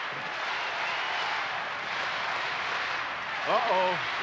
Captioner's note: audience cheering